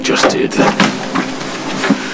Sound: door opens

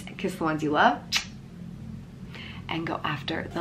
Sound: lips smacking

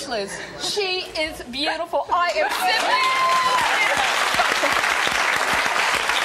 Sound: applause

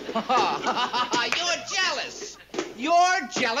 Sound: laughs

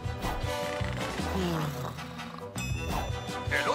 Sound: toy talking in Spanish; snoring; toy talking in Spanish

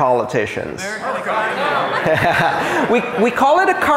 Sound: AUDIENCE shouting answers

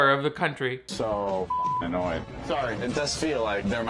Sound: beep

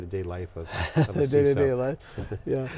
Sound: laughs

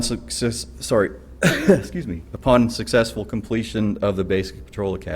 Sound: cough

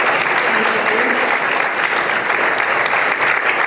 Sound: applause

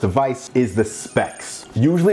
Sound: bells chiming

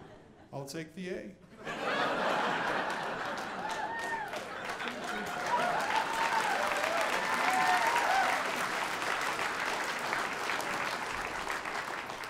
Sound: audience applauding

